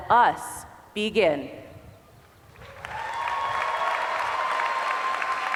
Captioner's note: applause